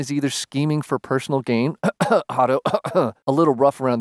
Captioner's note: cough